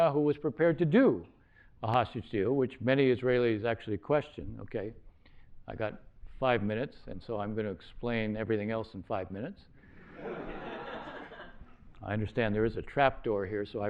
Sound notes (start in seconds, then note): 10.0 laughter